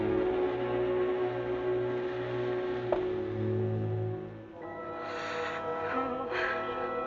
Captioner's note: suspenseful music continues; Janet panting